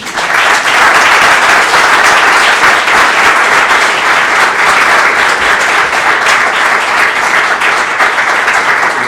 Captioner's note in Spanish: aplausos